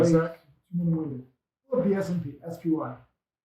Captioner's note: speaks faintly